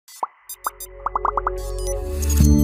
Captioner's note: soft music; bubbles popping